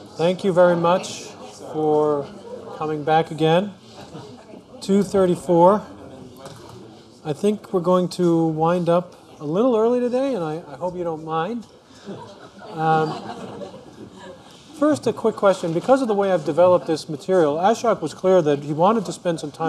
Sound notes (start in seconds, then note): 12.0 laughter